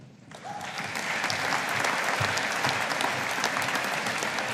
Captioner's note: audience applauding